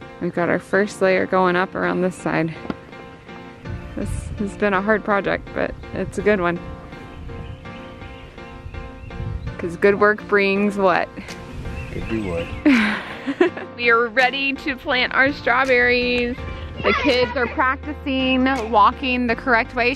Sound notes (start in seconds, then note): 12.6 laughs